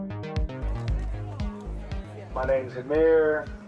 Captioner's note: crowd chatting